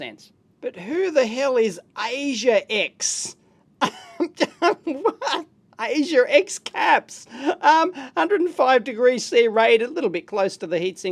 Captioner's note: laughs